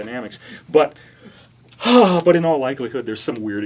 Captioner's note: sigh